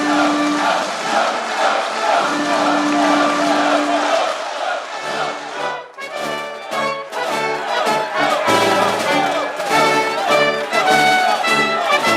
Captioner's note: applause